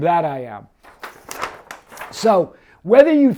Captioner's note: paper rustles